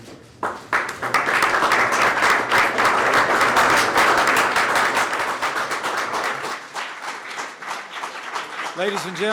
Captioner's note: applause